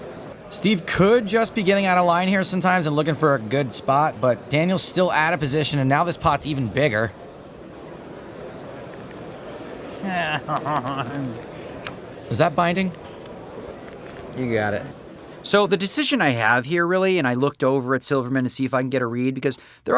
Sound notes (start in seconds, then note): 9.9 laughing